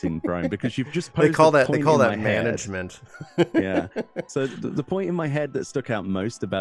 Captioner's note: laughs